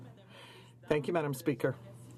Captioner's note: speaking French